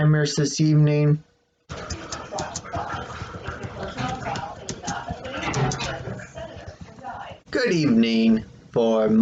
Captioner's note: tapping of keyboard with dialogue from the television on in the background